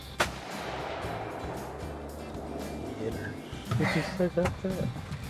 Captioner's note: gun bangs